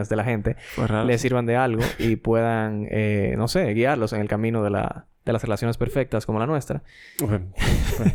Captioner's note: laughs